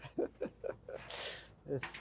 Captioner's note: laughing